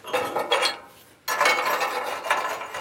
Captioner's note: clanking